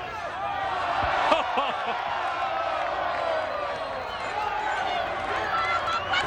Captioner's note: audience cheers; chuckles